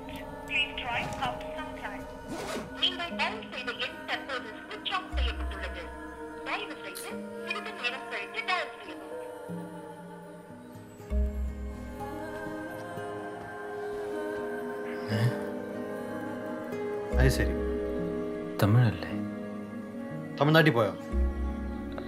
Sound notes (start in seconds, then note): 2.5 automated message- in Tamil